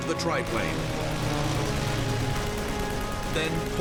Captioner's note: weapons firing, music playing